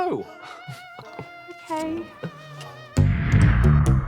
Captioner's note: chuckles